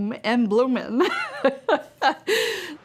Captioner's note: laughter